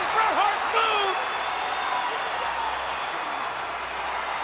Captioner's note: crowd cheering